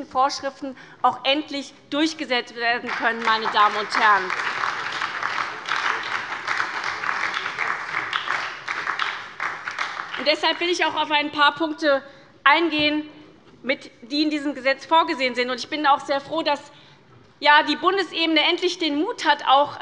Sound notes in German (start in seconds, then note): 4.7 Beifall bei der SPD